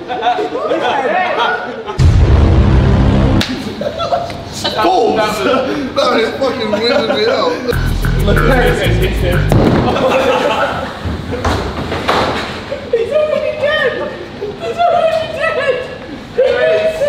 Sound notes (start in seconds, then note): 2.0 tense music; 3.4 slapping; 9.5 ball thudding